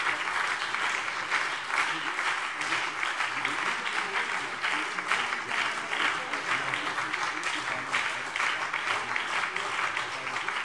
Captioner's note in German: Beifall BÜNDNIS 90/DIE GRÜNEN und CDU